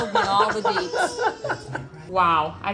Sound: laughs

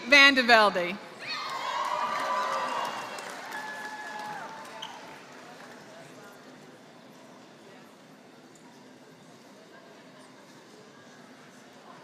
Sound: applause

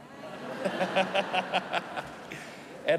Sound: laughter

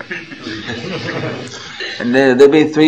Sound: laughter

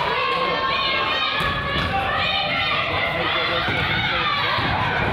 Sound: claps; claps

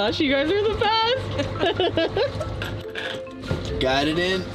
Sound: laughs

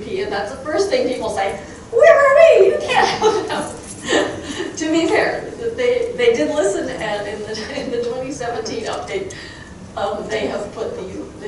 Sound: crowd chuckling

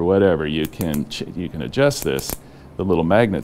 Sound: clicking

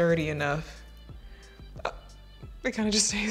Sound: light music; gasping

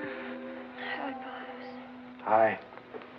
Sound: sighs

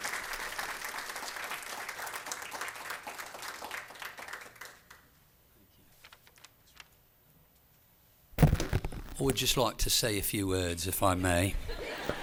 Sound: applause

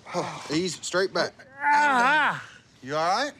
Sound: groans painfully

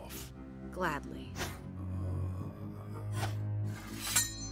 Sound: groaning softly

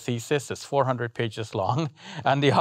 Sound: laughing

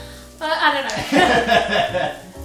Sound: laughs

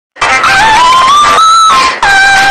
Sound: inaudible screeching

